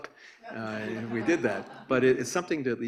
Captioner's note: audience laughs